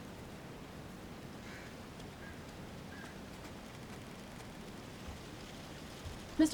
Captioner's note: crows cawing continues; footsteps tapping